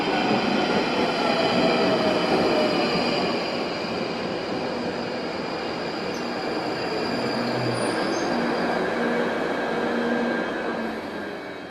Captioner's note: train station sounds